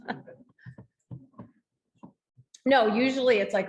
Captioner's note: laughing